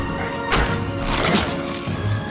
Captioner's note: fist thuds; body thuds; flesh squelching